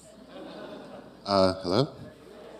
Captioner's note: audience chuckles